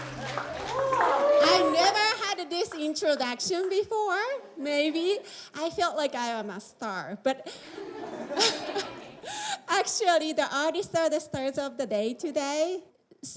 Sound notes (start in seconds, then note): 7.6 laughs